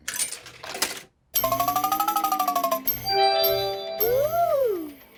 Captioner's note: beeps and chimes